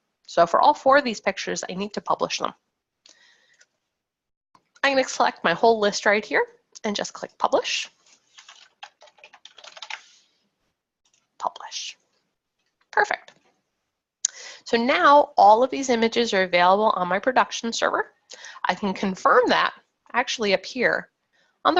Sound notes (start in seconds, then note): 8.4 keyboard keys clacking